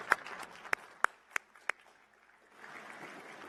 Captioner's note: applause